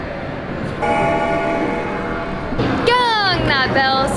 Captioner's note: gong ringing sound